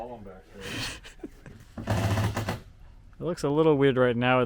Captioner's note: chuckling